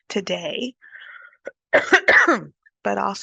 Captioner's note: coughs